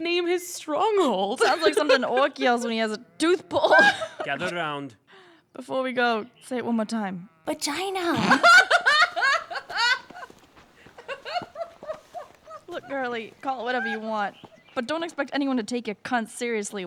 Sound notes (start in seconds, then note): 12.2 still chuckling